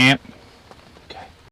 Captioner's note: beeping